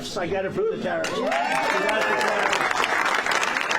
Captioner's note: applause